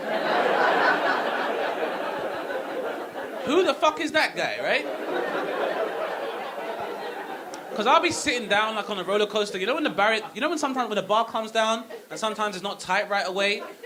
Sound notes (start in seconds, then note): 0.1 audience laughing; 4.8 audience laughing